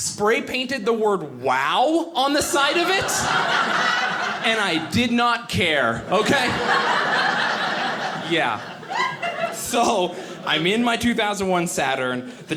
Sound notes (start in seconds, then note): 2.4 audience laughing